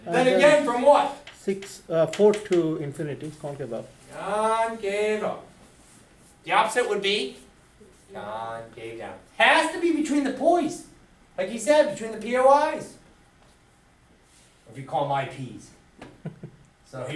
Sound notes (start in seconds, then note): 1.7 voiceover